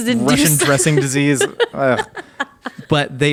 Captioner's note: laughing